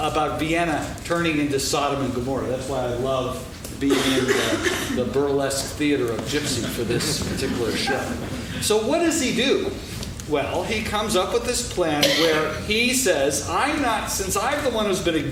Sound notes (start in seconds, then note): 6.3 laughing